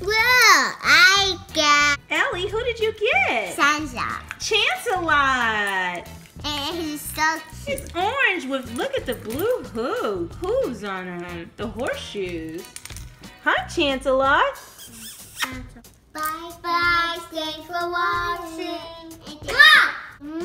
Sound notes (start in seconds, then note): 2.2 voiceover; 4.6 voiceover; 8.0 voiceover; 14.7 smooches